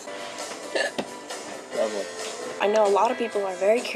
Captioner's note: hiccup